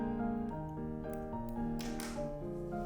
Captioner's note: quiet snip